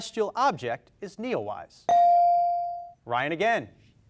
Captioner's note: beep